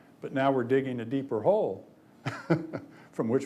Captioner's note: laughs